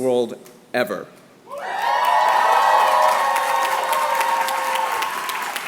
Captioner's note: applause